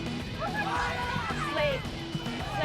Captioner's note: fans shouting